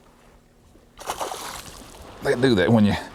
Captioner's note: splash